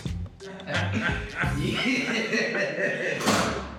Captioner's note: laughing